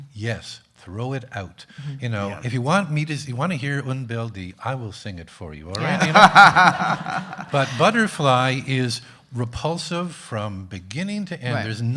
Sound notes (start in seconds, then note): 5.8 everyone laughing